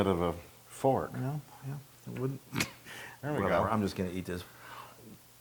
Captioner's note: laugh